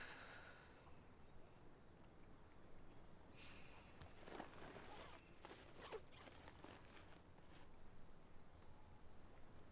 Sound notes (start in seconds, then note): 3.2 footsteps; 4.2 unzipping